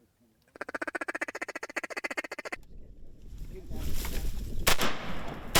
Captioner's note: duck calls quacking; gun firing